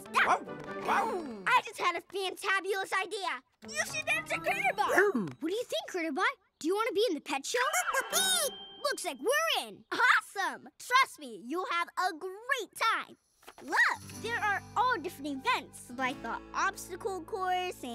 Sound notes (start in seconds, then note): 0.1 barking; 8.0 beeping